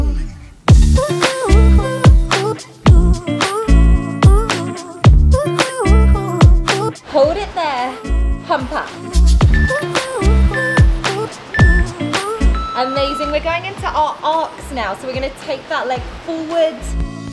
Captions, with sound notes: Hold it there. Pump up. (timer beeping) (waves whooshing) Amazing, we're going into our arcs now, so we're going to take that leg forward and back.